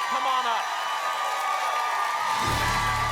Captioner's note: applause and cheering cont